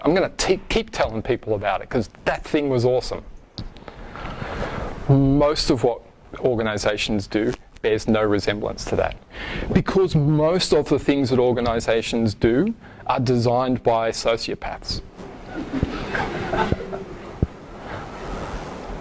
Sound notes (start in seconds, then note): 15.2 audience laughs